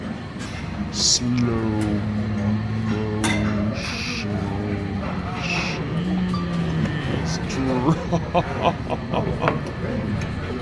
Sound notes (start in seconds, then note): 6.7 laughing